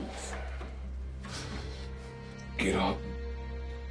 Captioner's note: none